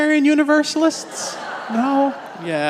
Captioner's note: congregation laughs